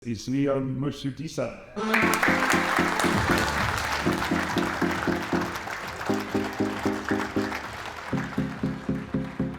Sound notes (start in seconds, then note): 1.8 audience applauding; 1.9 gentle rhythmic music